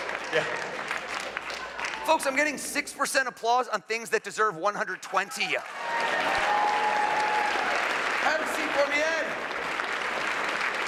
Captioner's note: applause